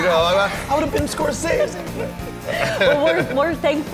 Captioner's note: laughter